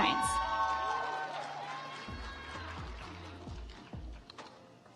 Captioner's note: audience applauds